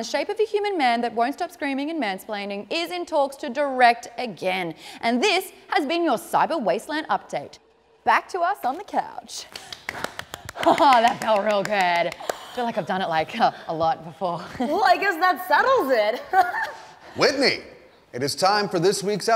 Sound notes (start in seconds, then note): 9.5 claps; 16.1 laughs